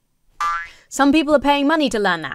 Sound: spring boings

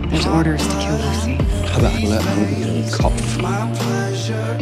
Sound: in German

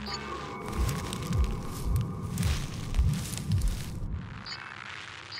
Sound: faint heartbeat

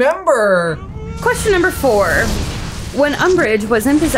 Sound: explosion noise

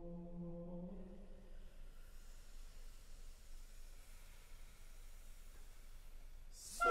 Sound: full Ensemble inhales slowly, starting one after the other

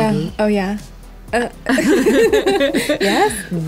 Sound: laughter

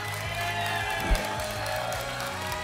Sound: whoosh; applause and cheering

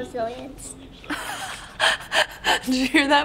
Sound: laughs

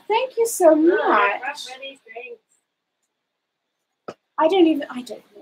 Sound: speaks quietly

